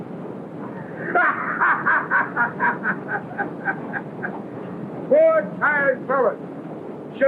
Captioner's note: laughing